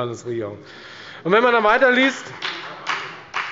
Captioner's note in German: Beifall bei der FDP